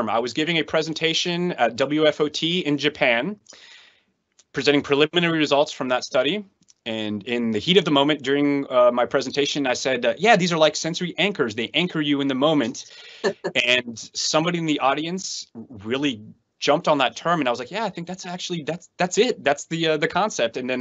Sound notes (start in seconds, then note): 13.2 laughs